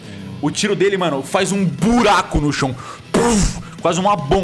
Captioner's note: boom